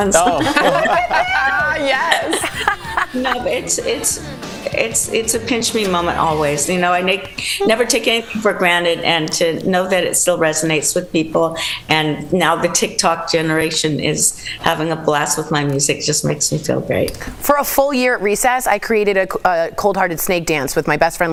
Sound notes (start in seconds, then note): 4.2 laughter